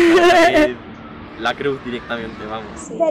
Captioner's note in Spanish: risas